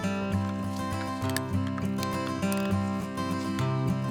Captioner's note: crunching